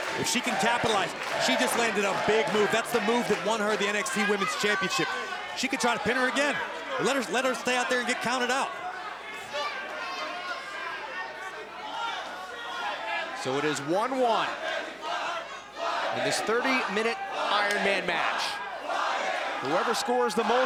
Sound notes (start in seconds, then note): 1.4 crowd cheering; 10.3 crowd chatter; 20.4 crowd chatter